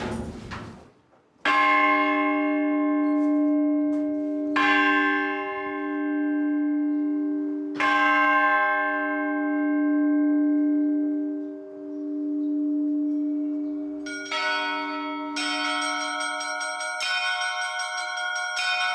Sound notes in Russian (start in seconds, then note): 1.5 звон колокола; 13.2 звон колоколов